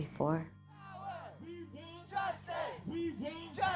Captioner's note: crowd